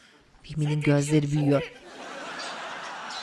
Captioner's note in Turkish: Papağan ses